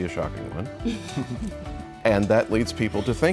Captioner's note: all chuckles